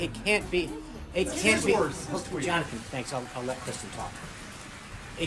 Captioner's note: audience clapping track